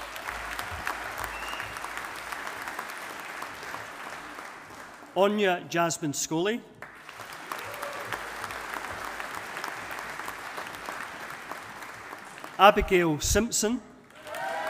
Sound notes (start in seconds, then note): 0.0 audience applauding; 6.8 audience applauding